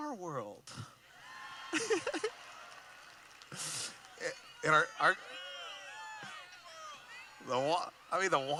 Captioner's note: cheering